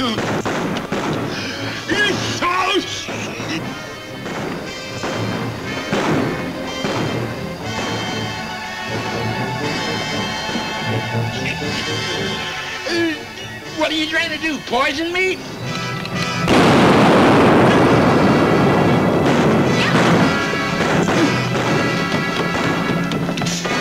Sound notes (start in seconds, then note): 0.3 groans; 3.8 guns bang; 9.7 tense music; 16.4 safe booms; 18.6 exciting music; 18.6 guns bang